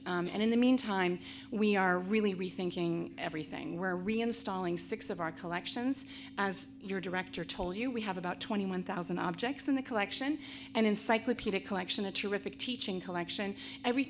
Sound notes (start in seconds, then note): none